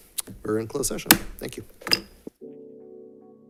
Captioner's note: gavel thudding; relaxing instrumental music